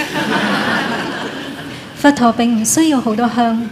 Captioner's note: laughter